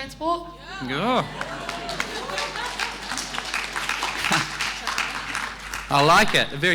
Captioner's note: audience cheering; audience clapping